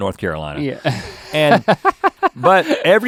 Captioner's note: laughs